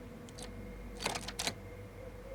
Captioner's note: doorknob jiggles; key turns in lock